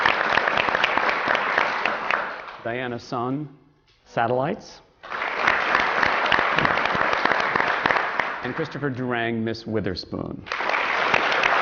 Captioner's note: applause